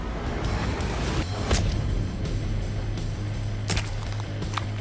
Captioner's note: squishes